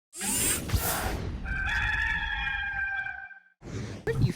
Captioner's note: rooster crows